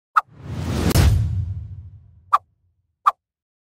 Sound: whooshing

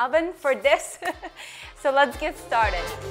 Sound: laughs; cheerful music

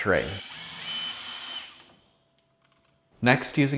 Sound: drilling

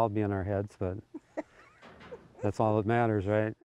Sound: laughing

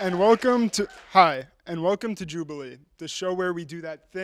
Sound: applause

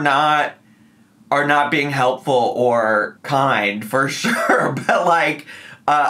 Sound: laughs

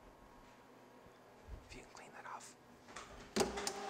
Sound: whispering

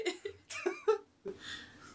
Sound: laughter

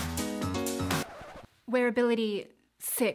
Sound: record scratching

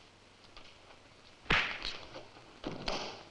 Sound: punch thuds; body thudding

